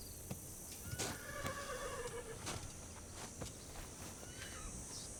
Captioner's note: horse whinnies